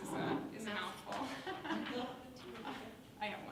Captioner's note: laughs